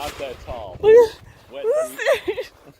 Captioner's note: laughs